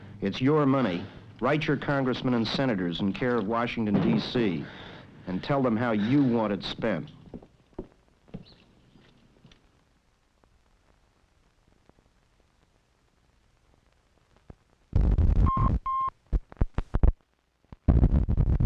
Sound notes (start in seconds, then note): 6.7 footsteps clomping; 12.0 beeping; 12.0 static crackling